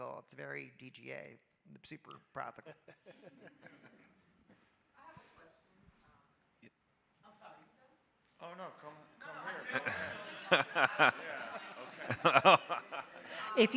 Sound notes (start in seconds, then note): 2.7 panelists laughing; 12.2 audience and panelists laughing